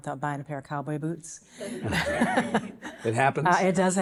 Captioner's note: audience chuckling